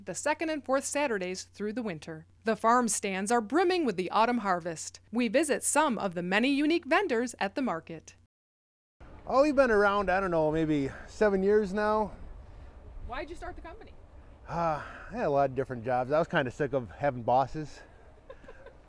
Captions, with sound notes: THE TRAIN STATION THE 2ND AND 4TH SATURDAYS THROUGH THE WINTER. THE FARM STANDS ARE BRIMMING WITH THE AUTUMN HARVEST. WE VISIT SOME OF THE MANY UNIQUE VENDORS AT THE MARKET. - OH HE'S BEEN AROUND, I DON'T KNOW, MAYBE SEVEN YEARS NOW. - WHY'D YOU START THE COMPANY? - (SIGHS) I HAD A LOT OF DIFFERENT JOBS,